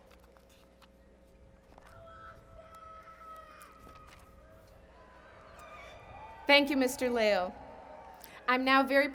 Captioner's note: applause